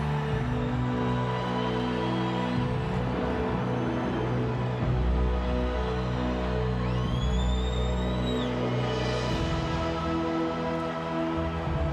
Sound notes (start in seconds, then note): 1.6 crowd chattering; 1.6 dramatic music continues